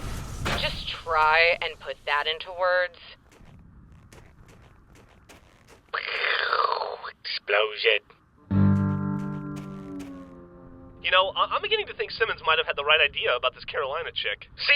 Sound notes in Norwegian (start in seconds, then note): 6.4 eksplosjon lyd effekt